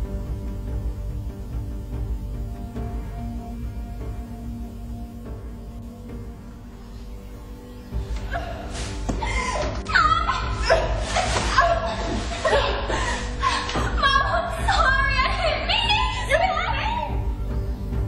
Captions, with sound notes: (screaming) - Mom, I'm sorry, I didn't mean it.